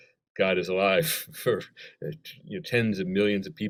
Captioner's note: chuckle